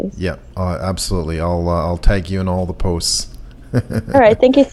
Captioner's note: laughs